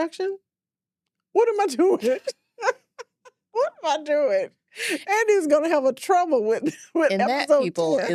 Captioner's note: laughs